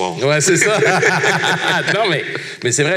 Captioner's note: laughs